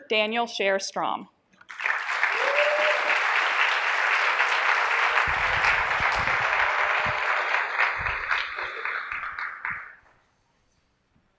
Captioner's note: applause